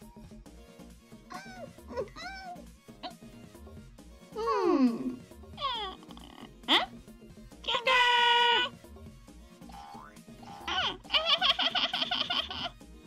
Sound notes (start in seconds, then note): 1.3 crying; 5.6 cries; 10.5 laughing